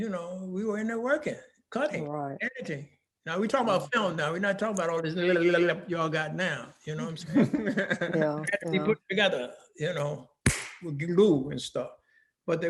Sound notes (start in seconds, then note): 7.2 laughing; 10.4 hands clapping